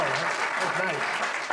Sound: audience applauds

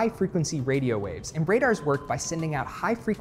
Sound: microwaves chiming

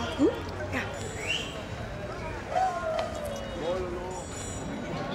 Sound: person whistles

